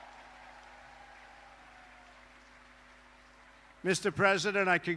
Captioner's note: applause